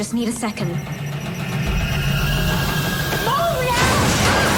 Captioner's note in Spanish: silbido